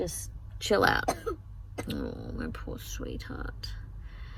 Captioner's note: coughs in the background